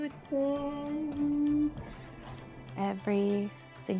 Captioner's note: humming